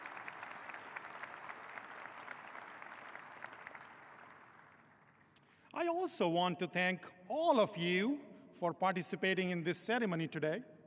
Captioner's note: applause